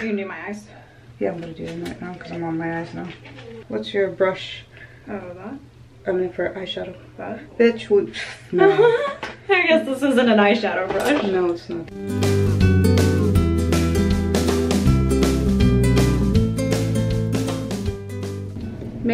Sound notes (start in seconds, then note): 8.5 chuckling; 11.9 mellow uptempo music